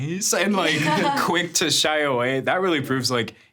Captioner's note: laughs